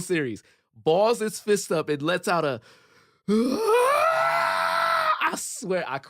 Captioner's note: screams